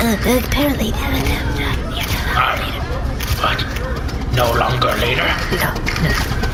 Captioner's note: whispering